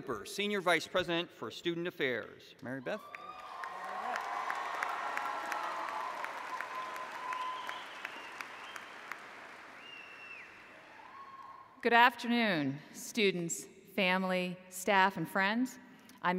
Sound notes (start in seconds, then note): 3.0 applause